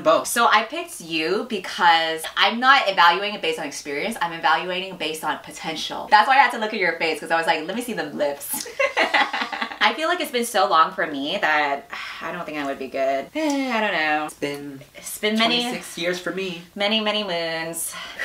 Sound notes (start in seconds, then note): 8.6 laughs; 13.4 sighs